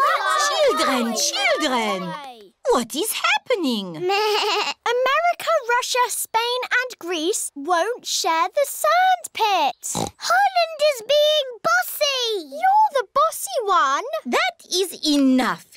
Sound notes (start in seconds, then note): 3.7 bleats; 9.9 oinks